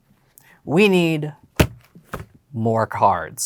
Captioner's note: decks thud